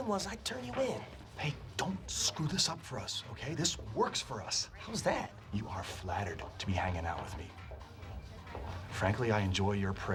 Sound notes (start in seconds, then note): none